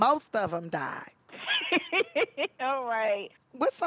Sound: laughing

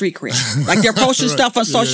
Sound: laughing

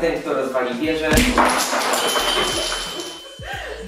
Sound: bang

